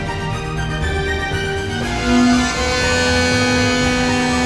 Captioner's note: air horn sounds